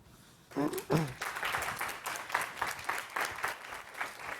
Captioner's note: applause